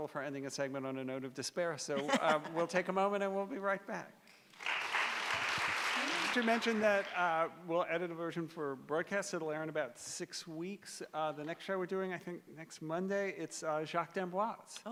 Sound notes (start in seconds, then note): 4.4 applause